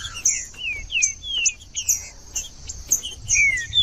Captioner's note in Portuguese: trinca ferro cantando